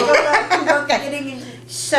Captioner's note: laughter